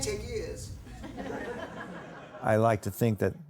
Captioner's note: laughter